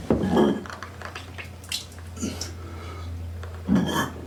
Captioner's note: he vomits